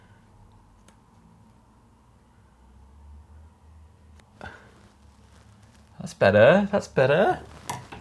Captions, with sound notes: (scissors snipping) That's better, that's better.